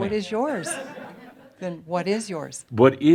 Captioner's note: more chuckles